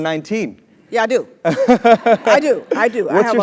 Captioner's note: laugh